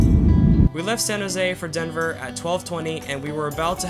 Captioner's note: voiceover